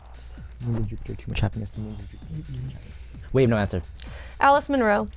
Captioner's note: wispering